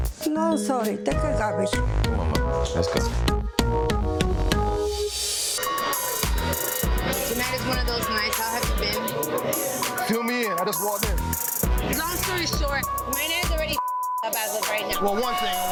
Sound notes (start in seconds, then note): 5.6 dramatic lively music; 13.7 beep